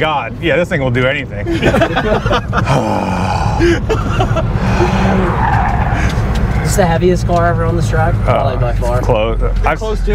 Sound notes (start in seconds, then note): 1.4 guys laugh; 2.6 sighs